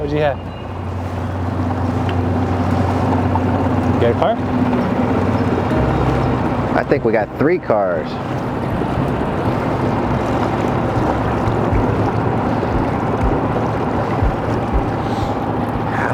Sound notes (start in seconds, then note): 8.2 motor running